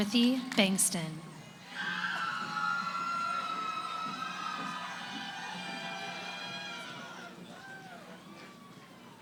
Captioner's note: cheering